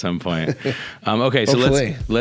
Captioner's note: laughing